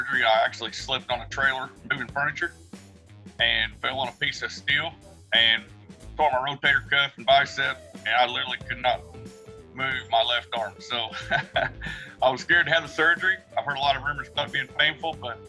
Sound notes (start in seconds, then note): 11.0 laughs